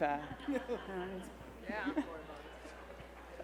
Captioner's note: cast laugh